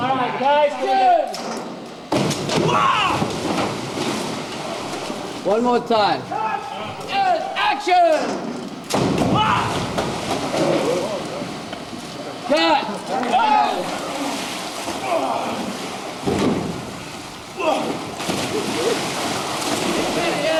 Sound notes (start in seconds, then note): 2.1 splash; 8.8 splash; 13.7 splashing and grunts